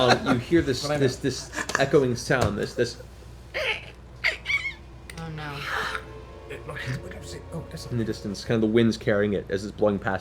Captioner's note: bird-like sounds